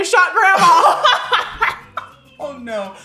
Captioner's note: laughing